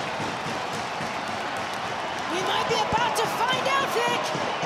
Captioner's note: crowd chatter